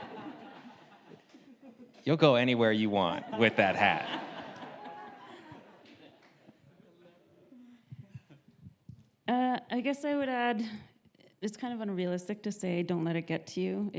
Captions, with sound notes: You'll go anywhere you want with that hat. (audience laughs) I guess I would add, it's unrealistic to say don't let it get to you,